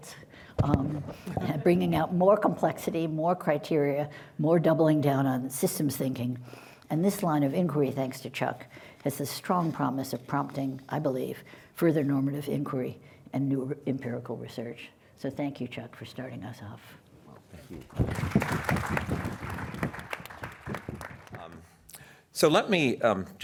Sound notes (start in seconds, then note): 1.2 laughter; 17.8 applause